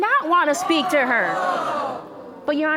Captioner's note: audience exclaiming